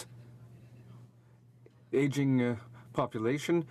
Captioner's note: speaking in french